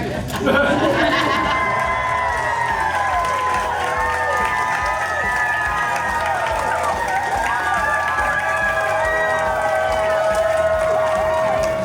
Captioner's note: crowd clapping and cheering